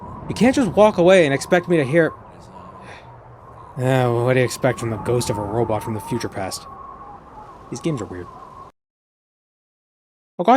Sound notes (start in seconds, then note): 4.2 sigh